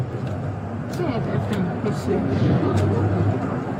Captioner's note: speaking in foreign language